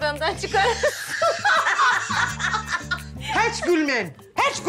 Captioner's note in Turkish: gülüyorlar